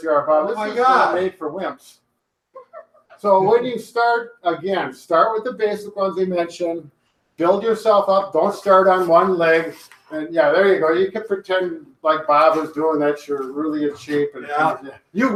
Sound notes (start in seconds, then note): 2.6 laughs